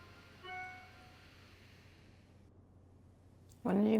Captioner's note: notification bell